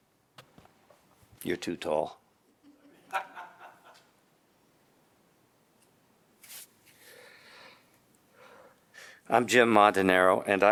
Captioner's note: laughter